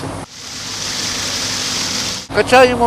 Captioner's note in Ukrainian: тече вода